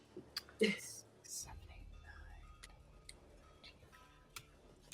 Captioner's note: faint whispering